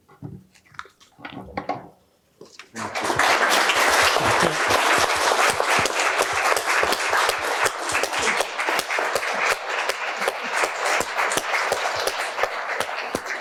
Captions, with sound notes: Thank you. Thank you. [APPLAUSE]